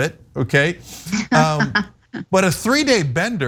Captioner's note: laugh